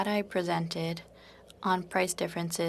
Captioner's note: speaking in French